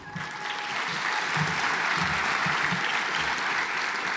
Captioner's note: audience applauds